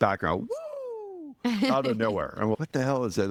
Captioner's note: laughing